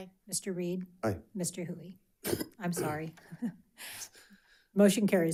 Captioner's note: chuckles